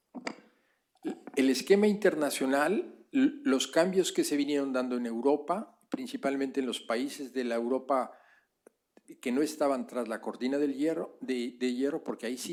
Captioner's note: speaking spanish